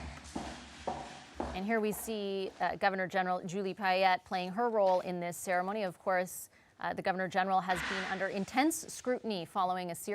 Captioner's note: speaking french